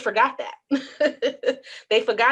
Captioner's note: laughs